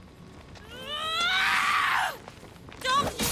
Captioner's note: scream